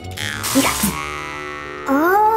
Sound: electrical shocks

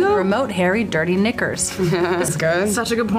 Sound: laughs

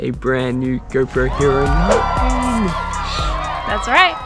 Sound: cheers

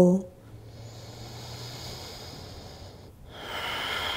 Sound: inhales and exhales

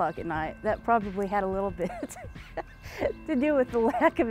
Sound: laughs

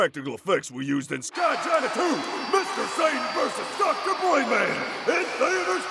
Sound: crowd cheers

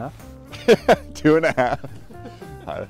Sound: laughs

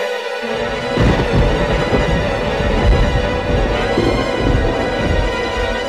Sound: intense music plays; thunder clapping

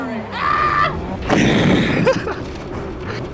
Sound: wheeze

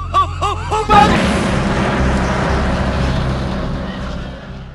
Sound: weeping; explosion

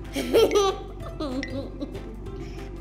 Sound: laughs

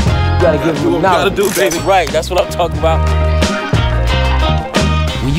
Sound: bell rings

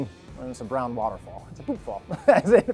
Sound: laughs

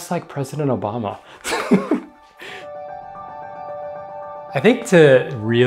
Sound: chuckles

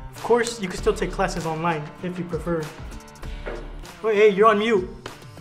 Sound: none

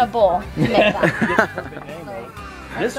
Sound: laughs

